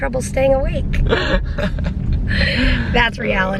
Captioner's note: laughter